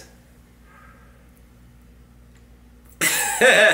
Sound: chuckles

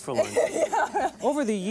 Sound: laughs

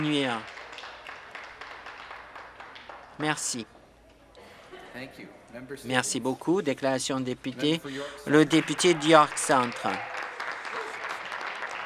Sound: some Applause

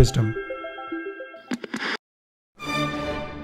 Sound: television static buzzing; dramatic orchestral music

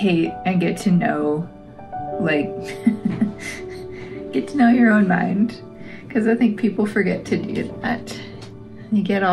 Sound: laugh

